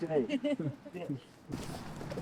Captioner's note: laughter